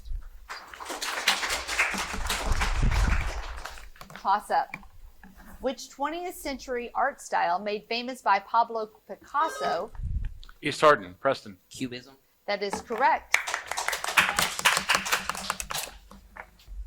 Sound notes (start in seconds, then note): 0.5 audience applauding; 9.4 buzzer buzzing; 13.3 audience applauding